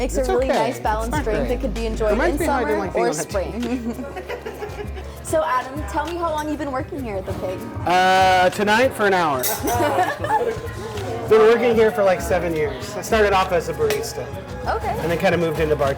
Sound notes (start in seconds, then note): 9.7 riotous laughter